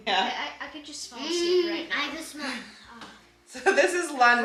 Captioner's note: sighs